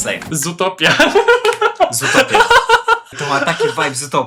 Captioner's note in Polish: śmiech